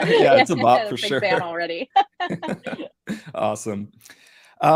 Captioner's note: all chuckling